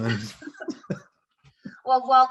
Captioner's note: laughter